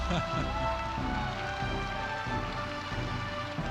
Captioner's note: laughs